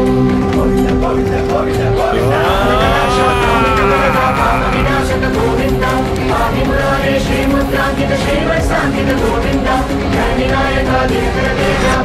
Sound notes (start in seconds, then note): 2.1 grunts; 2.5 sanskrit chants